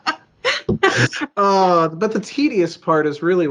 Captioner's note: laughs